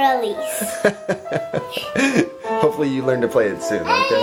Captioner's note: laughs